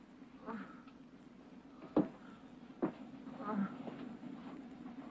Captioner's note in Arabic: أصوات تأوه